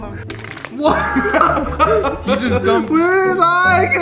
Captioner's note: chuckles